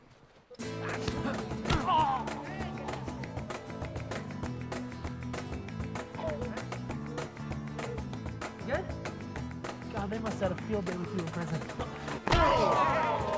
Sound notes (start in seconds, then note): 1.4 Gemidos; 12.2 todos exclamando